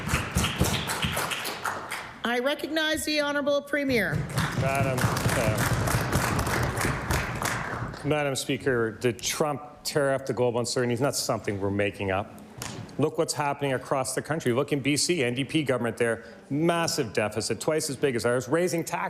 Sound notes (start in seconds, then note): 0.8 applause